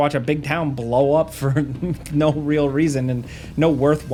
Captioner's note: chuckles